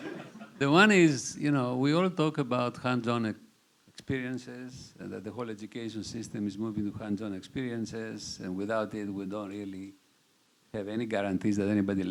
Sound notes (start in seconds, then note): 0.0 chuckling